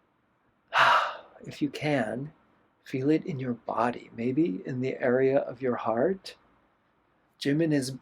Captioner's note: sigh